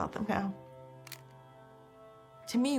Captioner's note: camera click